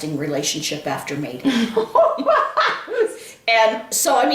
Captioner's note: laughing